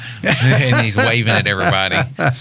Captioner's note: laughing